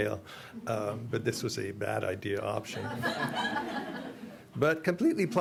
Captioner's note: audience laughter